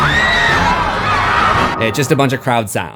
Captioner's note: screams